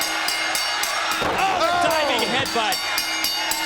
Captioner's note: bell ringing